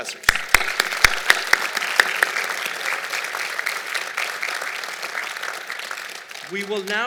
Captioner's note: applause